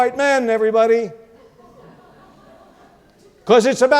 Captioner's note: audience laughs